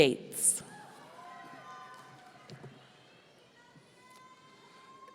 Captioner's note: audience cheering